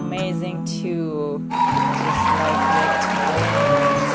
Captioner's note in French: applaudissement